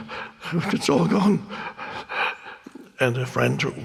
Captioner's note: breathing heavily